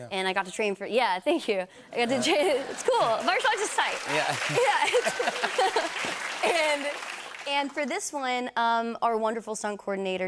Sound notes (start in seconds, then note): 1.8 laughter; 4.4 cheers and applause